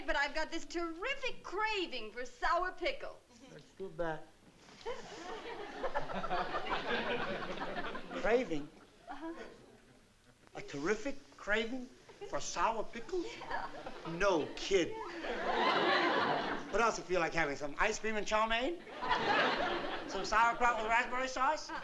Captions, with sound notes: but I've got this terrific craving for sour pickles. That's too bad. [LAUGHTER] Craving? Uh-huh. A terrific craving for sour pickles? Yeah. No kidding. What else you feel like having, some ice cream and chow mein? [LAUGHTER] Some sauerkraut with raspberry sauce?